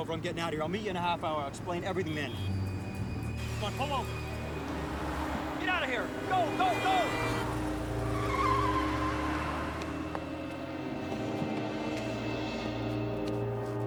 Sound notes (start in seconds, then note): 8.3 tires screech; 11.2 tense music